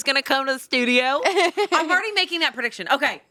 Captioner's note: laughing